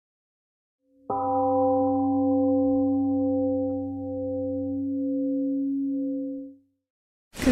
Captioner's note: temple gong rings and fades